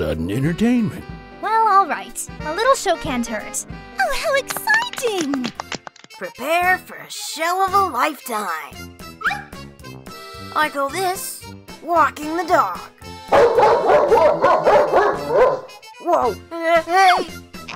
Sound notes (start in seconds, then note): 13.3 dog bark